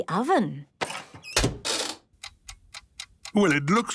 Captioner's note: dial cranking, oven ticking